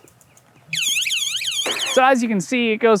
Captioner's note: silence again; alarm starts blaring